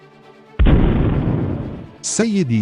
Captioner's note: zap